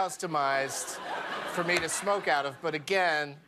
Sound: laughter

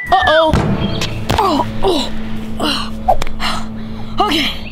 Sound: panting

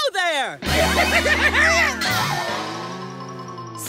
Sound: yelping

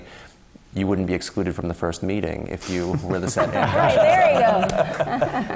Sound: laugh

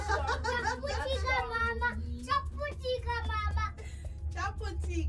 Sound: laughing

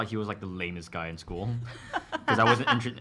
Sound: laughter

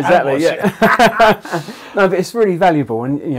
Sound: laughing

